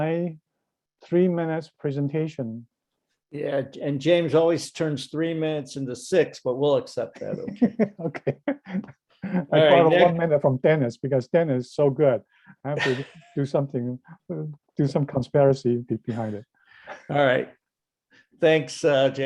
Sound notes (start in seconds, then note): 7.2 laughing